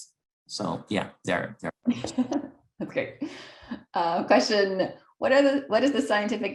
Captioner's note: laugh